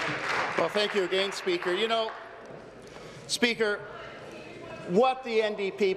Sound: applause

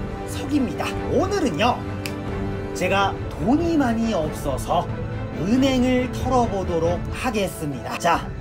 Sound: snaps

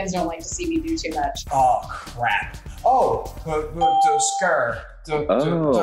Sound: hums

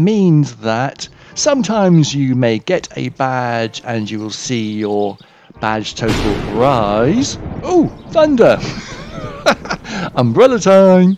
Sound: oh thunder - umbrella time

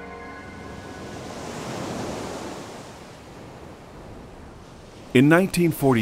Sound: ocean waves rustling

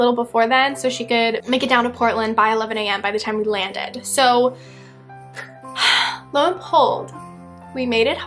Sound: sigh

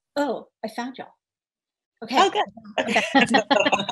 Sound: laughs

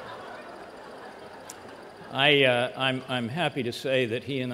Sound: laughter

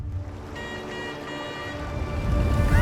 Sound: horn honking

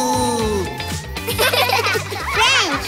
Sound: laughing

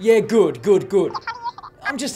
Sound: cartoonish phone speech

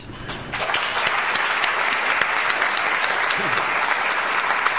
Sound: audience applauds

